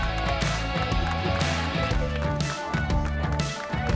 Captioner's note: applause